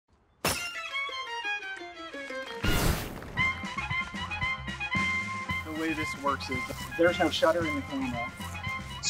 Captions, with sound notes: (glass shattering) (Klezmer music) - The way this works is there's no shuttering at all.